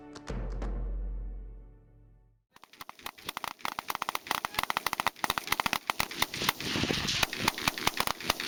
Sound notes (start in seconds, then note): 2.6 typewriter clicking